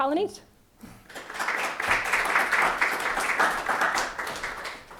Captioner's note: crowd clapping